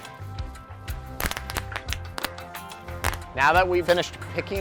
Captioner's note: pop